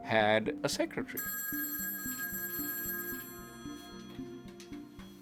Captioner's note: phone ringing